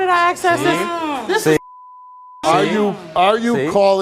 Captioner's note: overlapping chatter